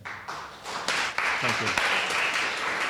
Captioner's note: audience applauding